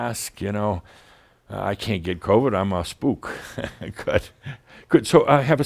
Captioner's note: Adamus chuckles